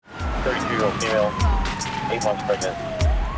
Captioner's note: siren blares